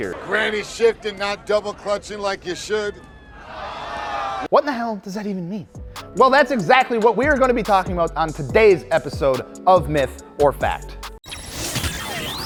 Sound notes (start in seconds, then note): 3.4 shouting